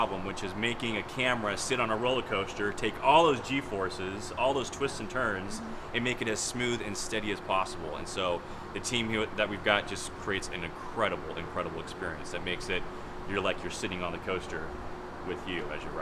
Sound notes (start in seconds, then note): none